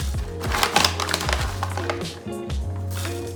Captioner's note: crinkling